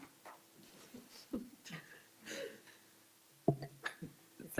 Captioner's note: councillors chuckle